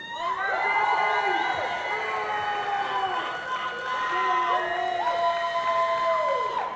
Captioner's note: audience cheering; audience clapping